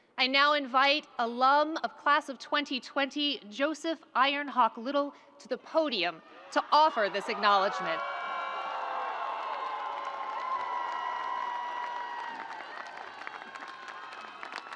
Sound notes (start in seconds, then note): 8.7 audience cheering